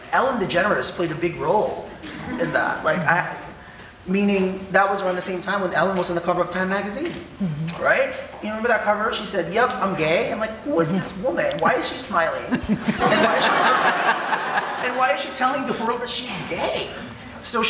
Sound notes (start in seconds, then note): 12.4 audience laughing